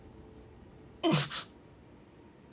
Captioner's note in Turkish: Mehmet Ali inliyor